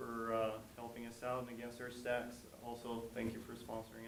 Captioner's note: speaks faintly